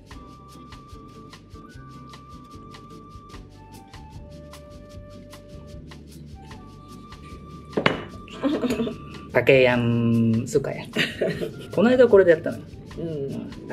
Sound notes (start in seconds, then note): 8.3 laughs